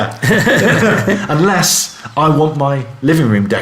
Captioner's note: laughing